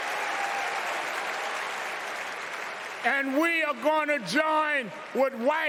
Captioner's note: cheers and applause